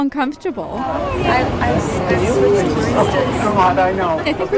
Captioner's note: soundbite of archived recording